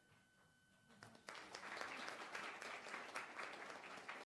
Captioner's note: audience applauding